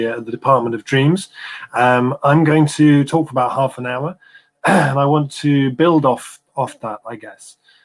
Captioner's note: erm